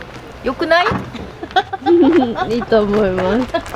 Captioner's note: laughter